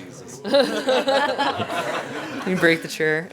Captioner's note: laughter